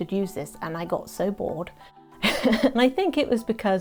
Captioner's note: laughs